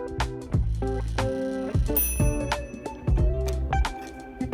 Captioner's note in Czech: cink